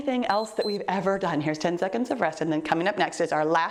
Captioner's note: timer beeps